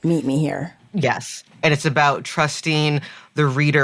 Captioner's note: none